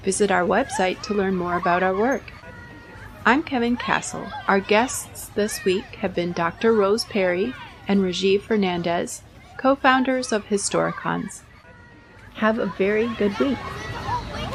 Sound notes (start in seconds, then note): 12.2 Sounds of neighborhood playground and bus passing in Queens fade out